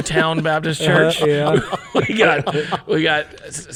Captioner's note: people laughing